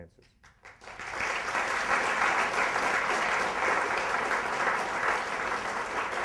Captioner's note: applause